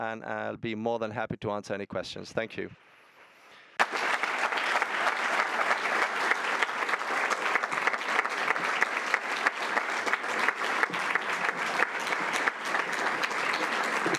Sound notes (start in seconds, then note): 3.3 audience applauding